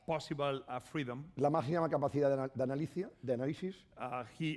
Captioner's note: speaking spanish